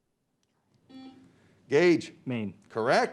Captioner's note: beep